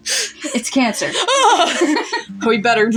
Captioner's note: both Laugh Quietly; laugh